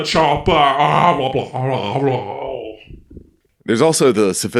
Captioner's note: Nonsensical Arnold noises